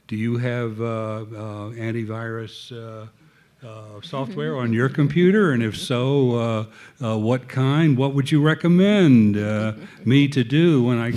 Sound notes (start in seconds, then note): 3.8 audience laughing